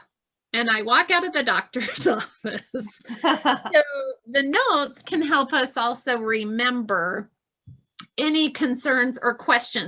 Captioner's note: both laughing